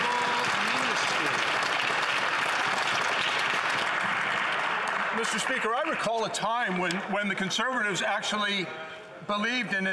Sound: some Applause

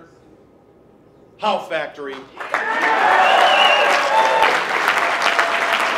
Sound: applause

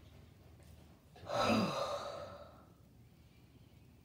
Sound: exhales

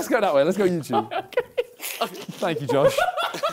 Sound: laughs; laughing

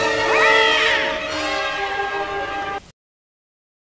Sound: Yoshi scream

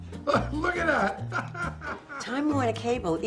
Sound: laughs

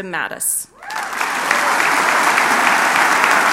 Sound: applause

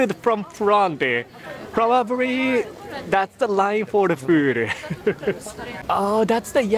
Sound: chuckles

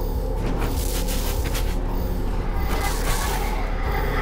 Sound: intense buzzing of electricity

